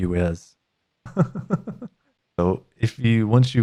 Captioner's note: laughs